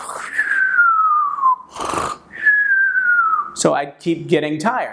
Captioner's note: snoring